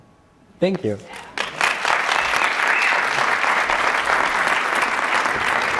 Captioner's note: audience applause